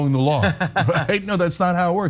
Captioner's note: laugh